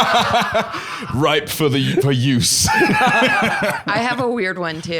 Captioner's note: both laughing; both laughing